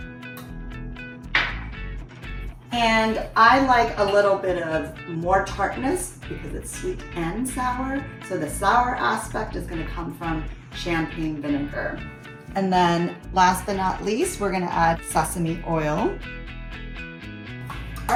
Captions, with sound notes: (glass bowl clanking against countertop) And I like a little bit of more tartness because it's sweet and sour. So the sour aspect is gonna come from champagne vinegar. And then last but not least, we're gonna add sesame oil.